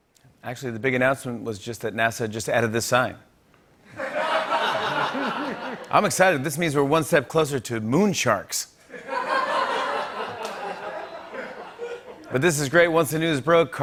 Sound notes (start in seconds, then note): 3.9 laughter; 8.9 laughter